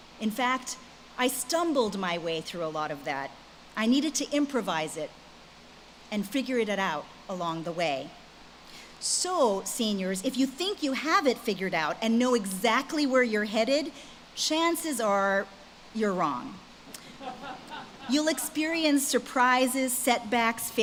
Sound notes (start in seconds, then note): 17.1 audience laughs